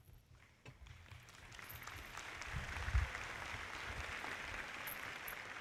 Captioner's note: audience clapping